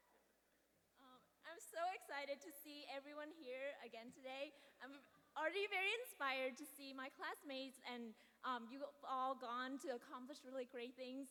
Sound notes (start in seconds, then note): none